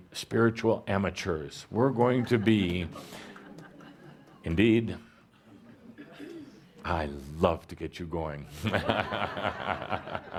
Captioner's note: laughter; chuckles